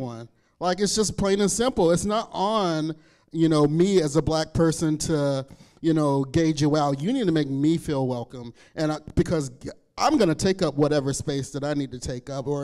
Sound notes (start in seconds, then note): none